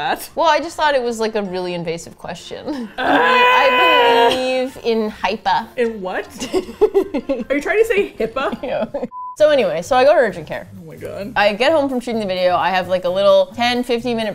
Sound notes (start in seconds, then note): 2.7 laughs; 3.0 yells in frustration; 6.4 laughs; 8.3 laughing